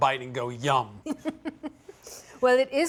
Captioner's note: laughs